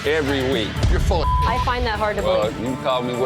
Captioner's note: beep